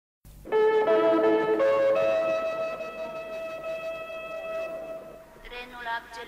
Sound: train announcement sound in the station

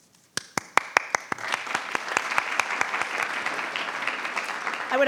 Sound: attendees applauding

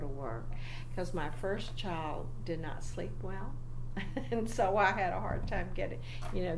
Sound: laughs slightly

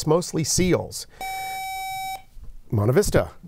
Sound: buzzer

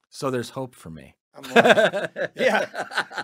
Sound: laughs

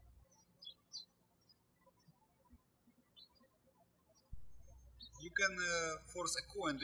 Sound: birds chirping

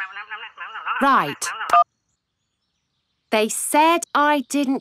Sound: beeps

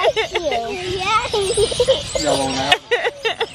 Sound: laughs

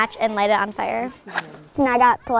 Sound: match Striking Sound

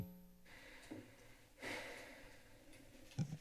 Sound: exhales

